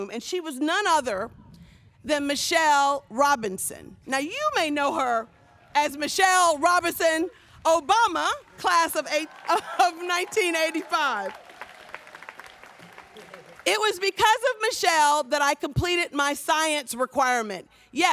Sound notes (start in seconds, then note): 11.6 audience applauds